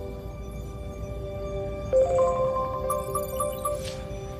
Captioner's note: chiming